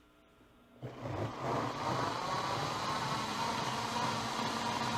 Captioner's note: blender whirring